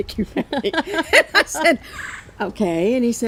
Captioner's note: both laughing